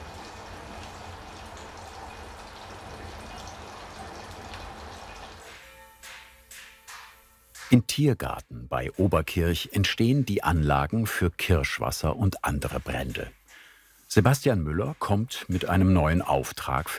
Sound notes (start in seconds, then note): 5.4 church bells ringing